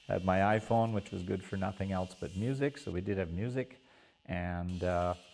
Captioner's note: voiceover